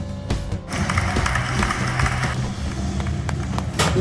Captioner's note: applauding